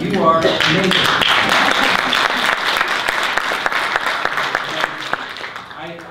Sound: audience applause

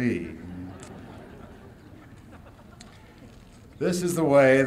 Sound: laughter

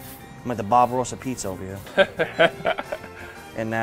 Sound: laughs

